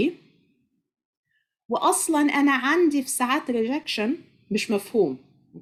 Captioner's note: speaking Arabic